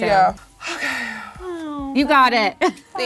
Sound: sighs

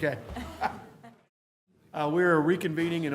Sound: laughter

